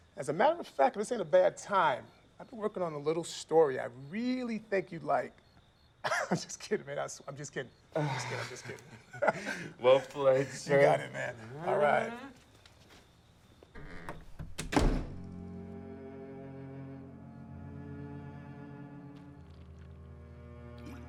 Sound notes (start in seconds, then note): 6.0 laughs; 7.9 Lance sighs; 9.5 laughing; 13.7 door closes; 15.2 tense orchestral music